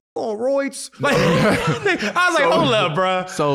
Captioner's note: all laughing